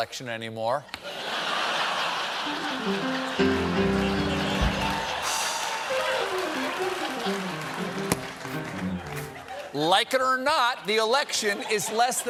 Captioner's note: laughter